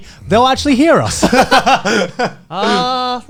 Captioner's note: Garnt laughing